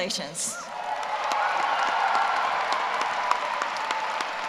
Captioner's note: applause